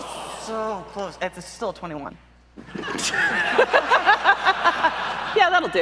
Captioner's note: audience laughs in missed nat20